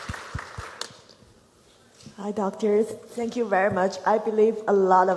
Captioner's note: applause